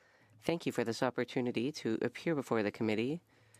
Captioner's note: speaking French